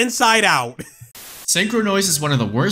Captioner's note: statiic